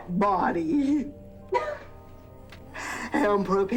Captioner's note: giggling